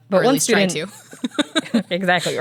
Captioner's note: laughs